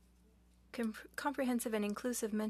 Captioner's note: speaking French